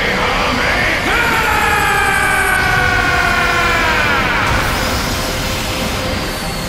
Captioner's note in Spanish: Gritos